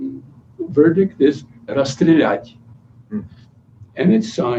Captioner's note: non-english speech